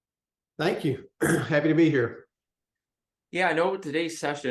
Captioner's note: cough